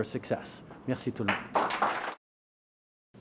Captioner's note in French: Applaudissements